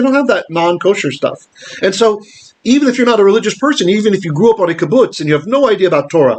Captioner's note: Hebrew